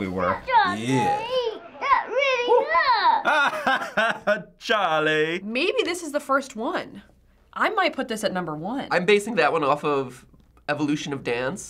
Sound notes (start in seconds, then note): 1.0 laughs